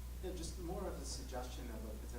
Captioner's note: voiceover